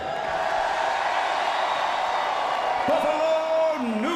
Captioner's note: crowd cheering